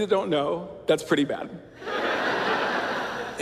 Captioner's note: laughter